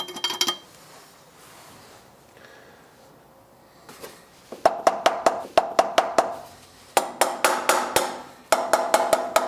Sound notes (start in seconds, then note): 5.4 knocking